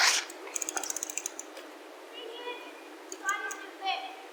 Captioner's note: freewheel clicking